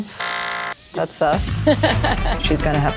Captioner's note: laughs